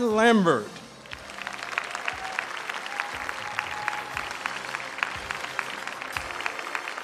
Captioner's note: audience applauding; audience cheering